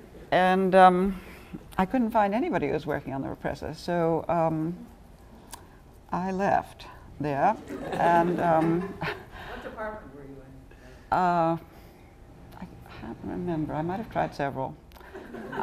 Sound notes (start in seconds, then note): 7.6 laughter